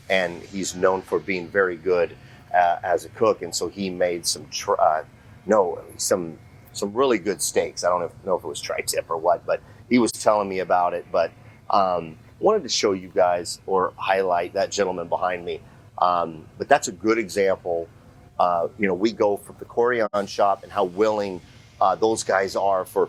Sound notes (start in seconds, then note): 4.8 stutters